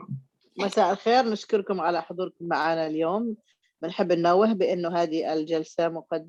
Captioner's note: speaking in foreign language